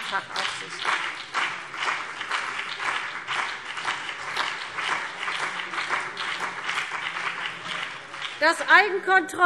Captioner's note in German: Beifall CDU und BÜNDNIS 90/DIE GRÜNEN